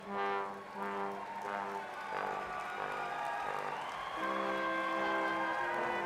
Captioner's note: crowd cheering